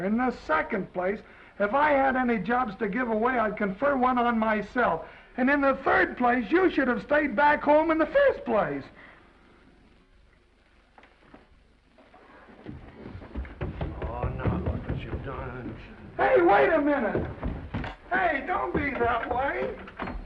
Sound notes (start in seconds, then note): 12.3 footsteps receding; 18.7 door unlatching